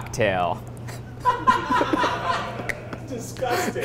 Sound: men laughing

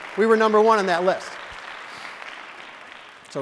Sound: audience: Clapping

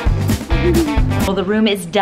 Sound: giggling

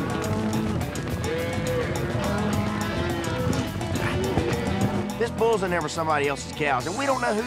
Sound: cows moo

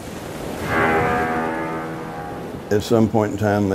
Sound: ship horn

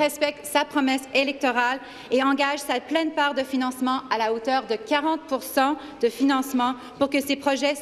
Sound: speaking in French

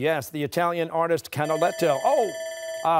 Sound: bell rings

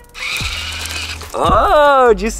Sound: robot buzzing

